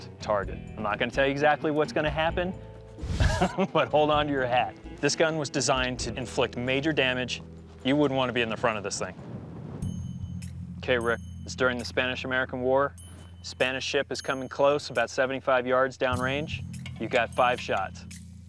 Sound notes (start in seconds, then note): 3.1 chuckles